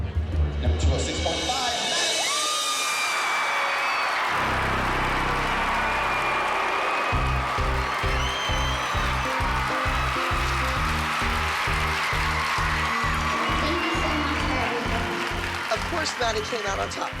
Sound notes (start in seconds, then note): 1.7 cheering; 7.2 uplifting music